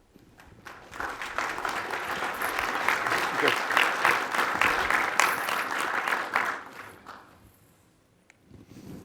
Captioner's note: applause